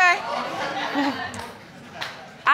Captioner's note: audience laughs